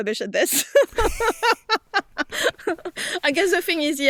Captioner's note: laughs